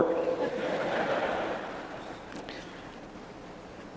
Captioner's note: laughter